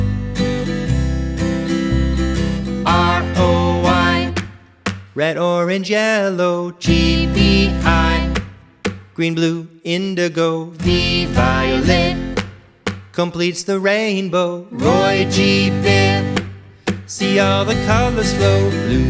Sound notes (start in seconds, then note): 4.4 clap, clap; 7.7 clap, clap; 12.0 clap, clap